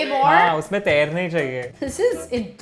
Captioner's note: speaking in Hindi